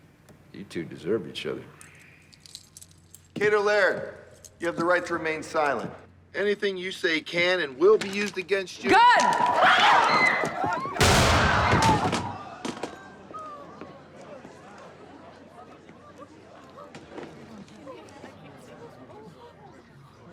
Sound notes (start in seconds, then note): 8.9 screams; 11.0 gunshot